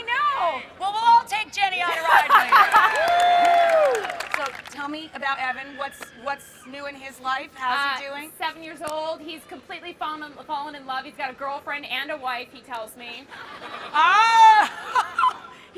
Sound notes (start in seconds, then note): 1.8 laughing; 3.6 crowd cheering; 13.2 crowd laughing